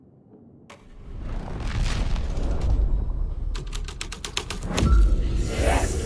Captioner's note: keyboard clacking